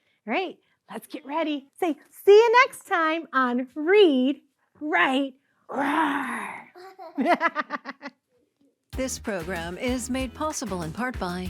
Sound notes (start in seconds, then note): 6.7 laughing